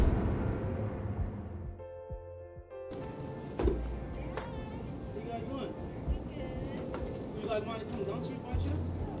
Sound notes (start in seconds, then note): 2.9 door opens